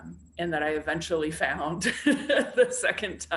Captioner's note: laughs